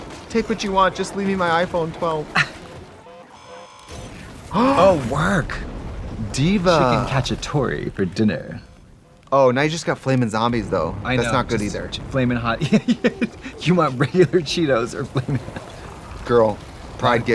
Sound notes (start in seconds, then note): 2.8 alarm sounds; 3.9 explosion booms; 4.7 both gasp; 12.5 laughing